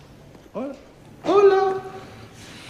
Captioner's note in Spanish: con voz aguda